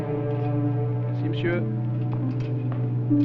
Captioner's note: French spoken audio